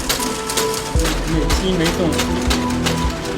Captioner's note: metal clicking sound